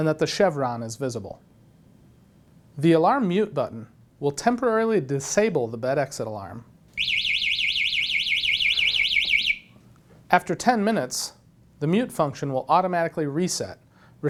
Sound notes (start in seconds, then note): 6.9 alarm sounds